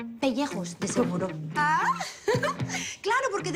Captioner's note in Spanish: Exclamaciones y risa